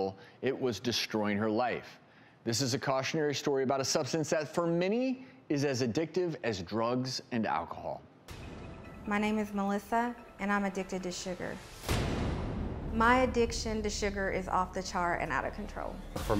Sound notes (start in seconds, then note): 11.6 dramatic crashing